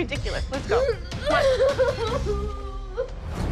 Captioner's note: sobbing